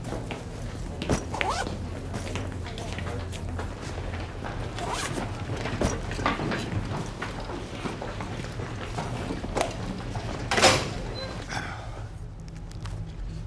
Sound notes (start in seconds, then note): 1.2 zipper buzzing